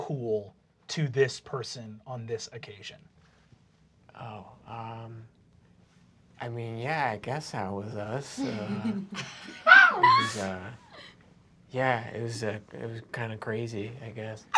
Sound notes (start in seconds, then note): 8.4 giggling